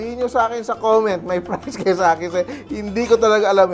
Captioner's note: laughs